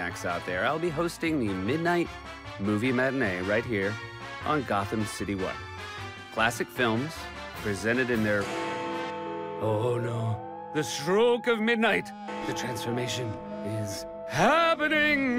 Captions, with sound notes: I'll be hosting the Midnight Movie Matinee right here on Gotham City One. Classic films presented in their-- [bell tolls] Oh, no. The stroke of midnight. The transformation is happening.